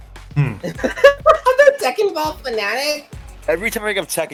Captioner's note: laughs slightly confused